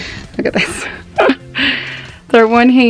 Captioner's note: laughing